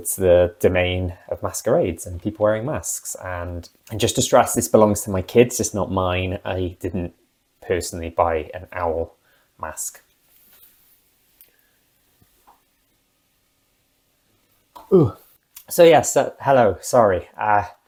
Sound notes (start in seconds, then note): 11.1 grunt of failure